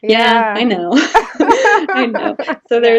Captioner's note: both laughing